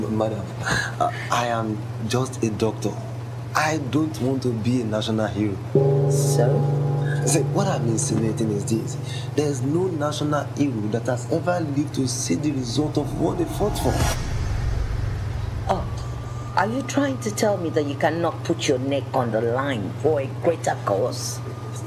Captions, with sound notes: - Madam, I am just a doctor. I don't want to be a national hero. (tense music) - So? - So what I'm insinuating is this, there is no national (speaking in foreign language) that has ever lived to see the result of what they fought for. - Oh, are you trying to tell me that you cannot put your neck on the line for a greater cause?